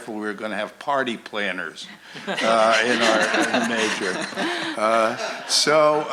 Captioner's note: laughter